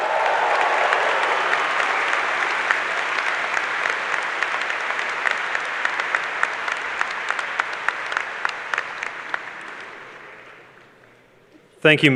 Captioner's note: cheers and applause